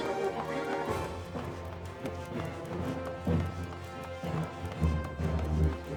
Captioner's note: footsteps